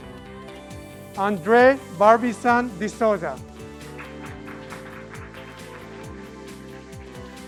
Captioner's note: graduates clapping